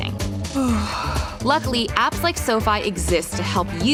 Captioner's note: yawns